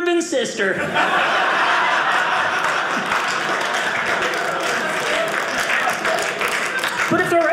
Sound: audience laughing

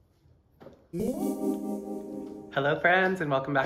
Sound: electronic humming

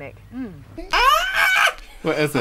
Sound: someone Screaming

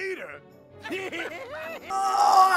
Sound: laughter

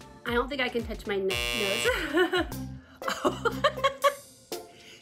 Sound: buzzer blares; Margaret laughs

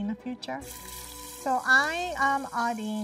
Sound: beef sizzling

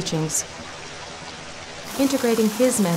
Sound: water sounds

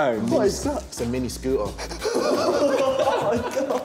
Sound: laughing

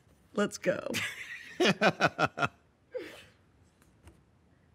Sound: chuckles

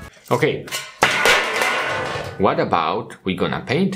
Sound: tray clatters

